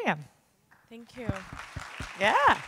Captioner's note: audience applauding